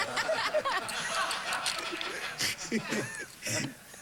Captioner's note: laughter